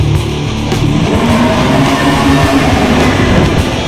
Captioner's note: beast roars